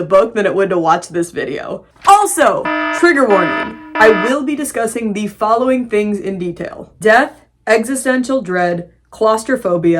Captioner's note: alarm blaring